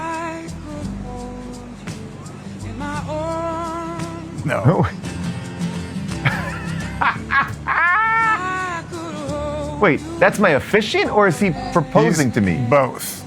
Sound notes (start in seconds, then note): 6.2 laughing; 6.4 easygoing upbeat music